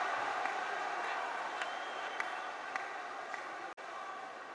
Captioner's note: applause